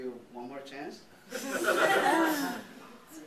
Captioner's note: laughter